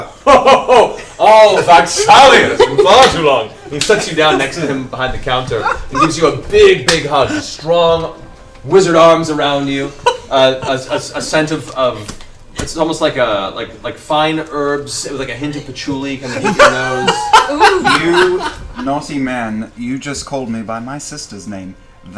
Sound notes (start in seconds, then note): 15.3 laughs